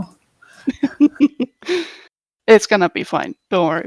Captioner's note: laugh